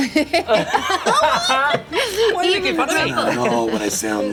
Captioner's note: laughter